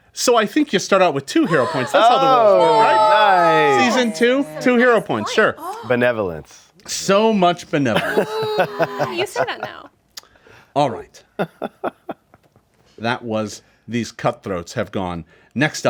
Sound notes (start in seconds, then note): 1.4 group cheering